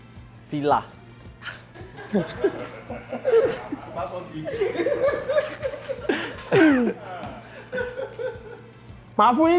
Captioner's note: everyone laughs